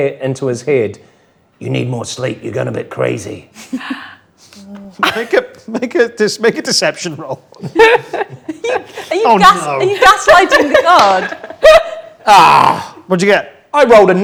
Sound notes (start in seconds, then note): 7.2 group laughs; 12.2 groans